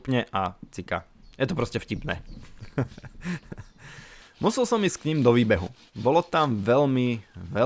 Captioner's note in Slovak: smiech